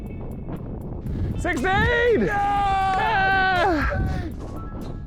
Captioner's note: cheering